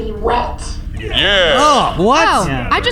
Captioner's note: everyone choruses in acknowledgment